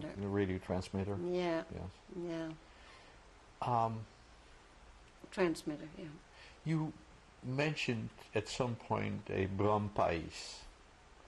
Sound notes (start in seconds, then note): 2.6 pauses for 3 seconds